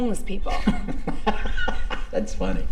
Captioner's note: Torrez laughs